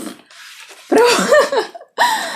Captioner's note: laughs